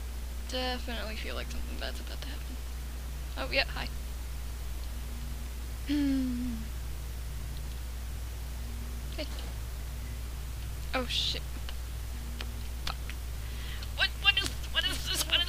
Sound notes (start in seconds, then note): 5.8 sighs